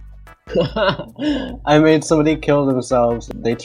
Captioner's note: laughs